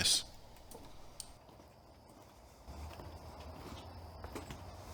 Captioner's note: footsteps tapping